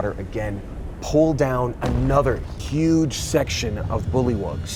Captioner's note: thump resounds